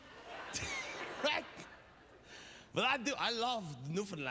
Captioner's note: laughs